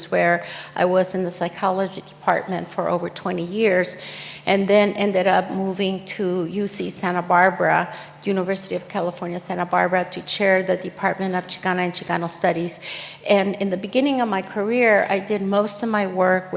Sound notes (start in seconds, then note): none